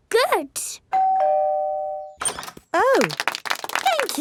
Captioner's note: doorbell ringing; crowd applauding